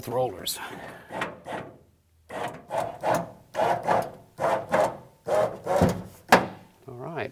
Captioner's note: door window sounds